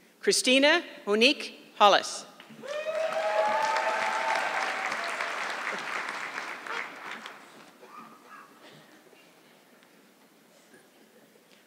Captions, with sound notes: Christina Monique Hollis. (audience clapping)